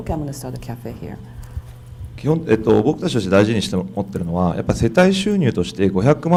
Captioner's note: speaking foreign language